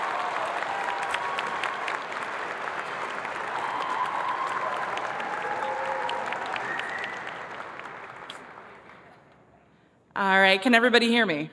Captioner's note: cheers and applause